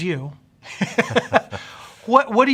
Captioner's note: laughing